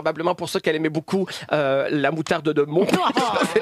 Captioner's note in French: rire